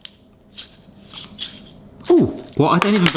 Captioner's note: metal sliding